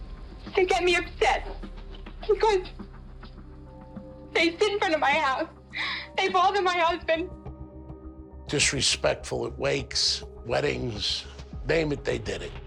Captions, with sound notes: They get me upset because... they sit in front of my house. [sobs] They bother my husband. ...disrespectful at wakes, weddings. Name it, they did it.